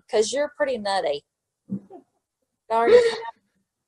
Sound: laughing

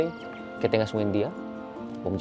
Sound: Spanish

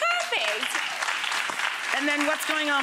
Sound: audience applauding

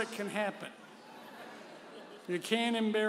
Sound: audience chuckling

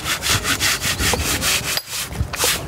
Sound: grinding noise

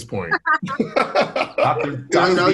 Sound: laughs

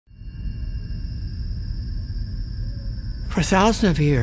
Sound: wind rushes by, crickets chirp

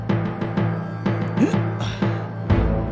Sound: grunts

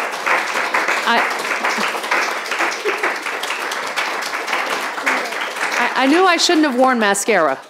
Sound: audience applauding

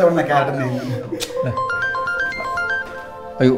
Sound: mobile ringing

